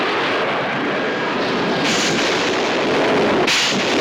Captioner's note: booming